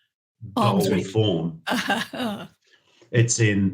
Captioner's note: chuckles